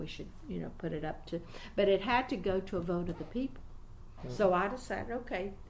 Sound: resumes tapping table

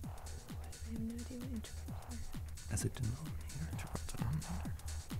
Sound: whispering

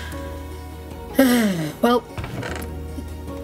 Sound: sigh

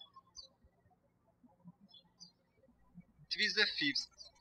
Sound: birds chirping

